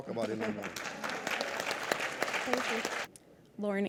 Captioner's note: audience applause